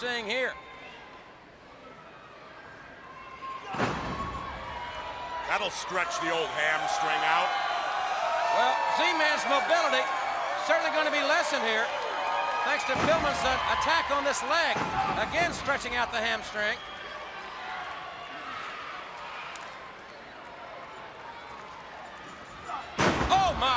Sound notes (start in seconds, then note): 7.9 crowd cheering; 17.3 crowd chatter